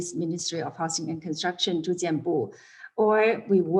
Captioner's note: non-english speech